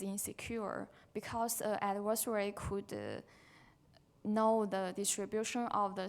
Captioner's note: faintly speaking